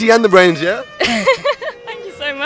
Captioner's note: giggles